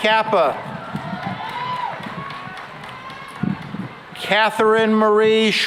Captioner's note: cheering and applause